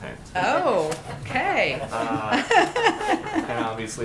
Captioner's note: laughs